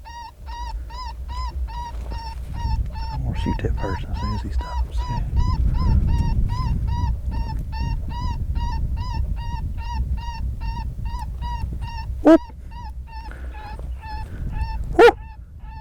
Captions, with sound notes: I am going to shoot that first one soon as he stops. ( animal call)